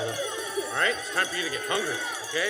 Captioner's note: bell rings